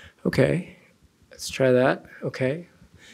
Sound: none

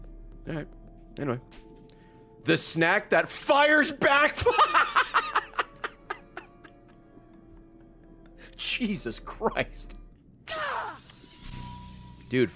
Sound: laughs

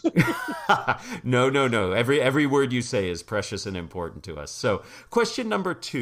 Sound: laugh

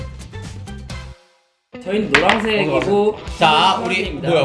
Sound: thump

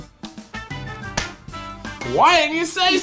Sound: claps

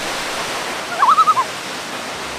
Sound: loon call

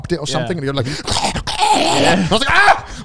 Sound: yells; crunches

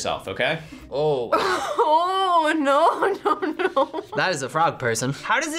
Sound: laughs

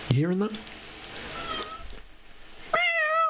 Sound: meow

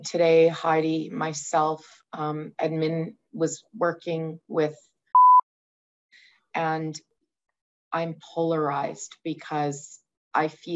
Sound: beep

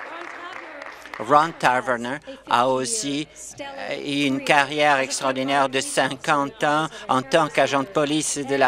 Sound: applause

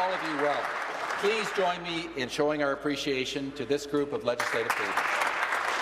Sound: applause

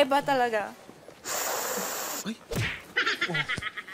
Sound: sniffs; laughter

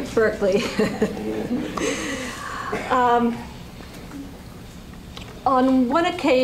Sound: laughs

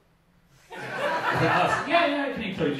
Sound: audience laughing

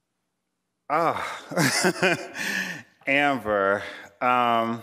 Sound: chuckling

